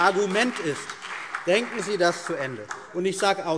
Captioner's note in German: Beifall CDU und BÜNDNIS 90/DIE GRÜNEN